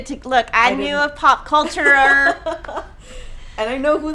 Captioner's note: chuckling